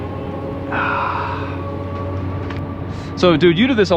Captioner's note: sighing